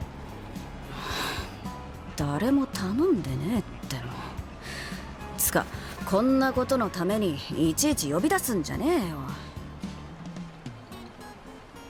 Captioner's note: sigh